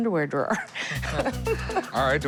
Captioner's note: laughs